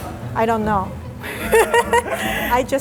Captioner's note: laughing